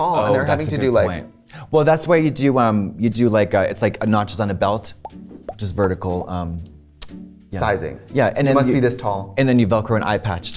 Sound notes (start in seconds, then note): 6.1 holes popping